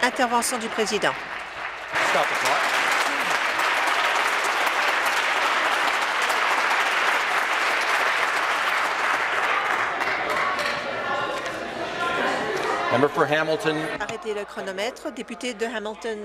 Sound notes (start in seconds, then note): 2.8 applause